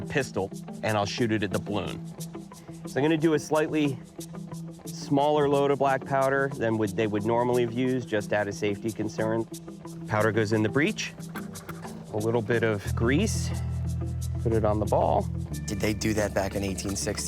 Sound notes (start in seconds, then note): none